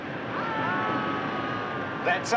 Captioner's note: group yelling